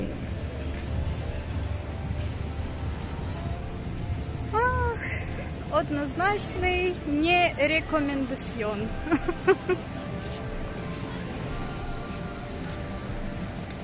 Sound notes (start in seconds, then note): 9.0 laughs